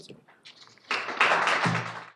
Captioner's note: audience claps